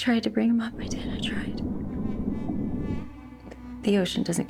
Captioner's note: bubbles gurgling